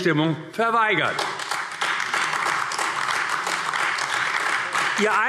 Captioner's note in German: Beifall AfD